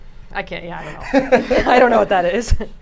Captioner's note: chuckles; both laugh